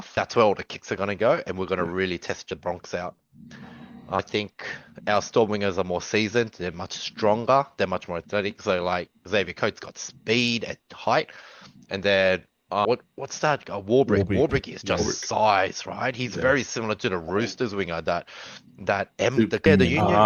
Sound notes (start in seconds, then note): 3.5 laughs